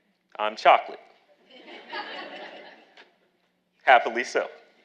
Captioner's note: audience laughing